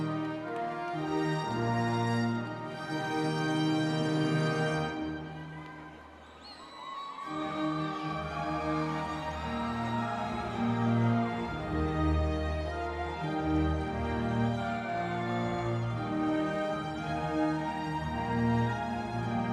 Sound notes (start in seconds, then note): 5.6 people cheering